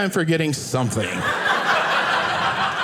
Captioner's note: audience laughing